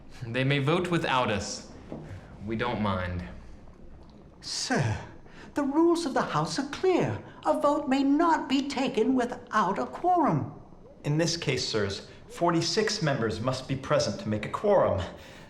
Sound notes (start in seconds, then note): none